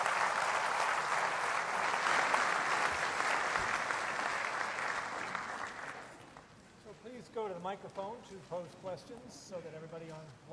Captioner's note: applause